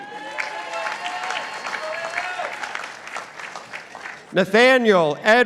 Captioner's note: participants applauding